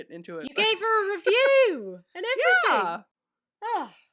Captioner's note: laughing